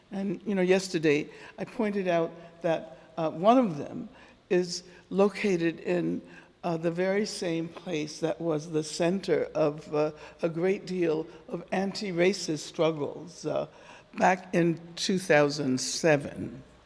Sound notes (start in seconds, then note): none